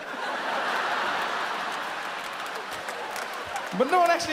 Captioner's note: audience laughs and applauds